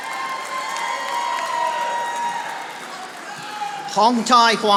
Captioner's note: audience applauding